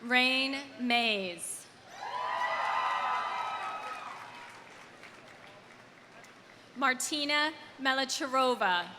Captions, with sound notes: Rain Mays. (audience cheering) (audience applauding) Martina Melicherova.